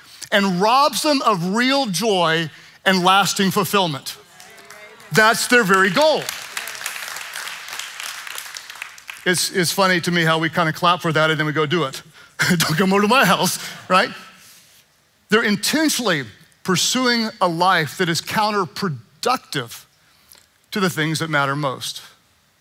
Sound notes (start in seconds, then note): 6.6 congregation clapping; 12.5 chuckling